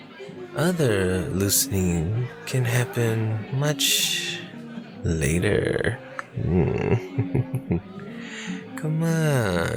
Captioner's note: salacious, quiet laugh